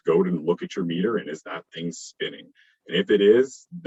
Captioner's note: murmurs